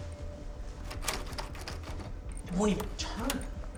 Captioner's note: tense music; doorknob rattling